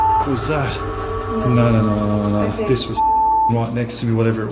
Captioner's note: beeping